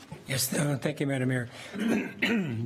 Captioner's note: clears throat